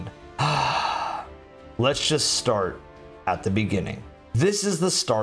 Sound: long sigh

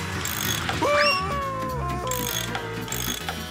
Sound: screaming

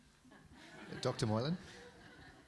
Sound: audience laughing

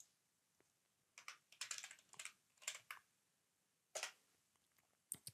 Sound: keyboard clacking

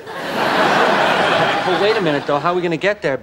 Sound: audience laughing

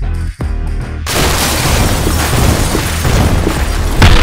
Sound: crashing

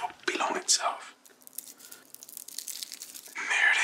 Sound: garlic skin rustles

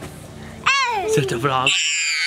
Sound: baby exclaiming; baby screaming

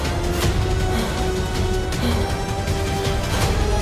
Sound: gasps

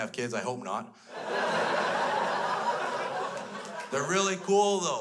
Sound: crowd laughs

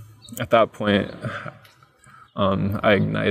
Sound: chuckles

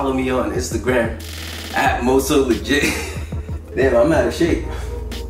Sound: chuckles

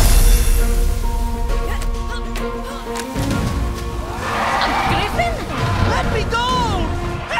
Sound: grunting

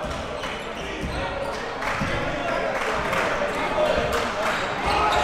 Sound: crowd cheering

